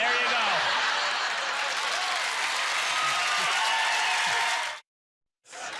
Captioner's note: cheers and applause